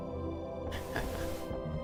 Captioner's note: laughs